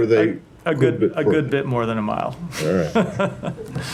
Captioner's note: laughter